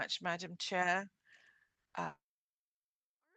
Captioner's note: speaking French